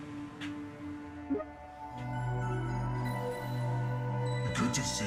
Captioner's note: airy button; startup tune